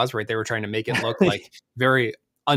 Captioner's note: laughs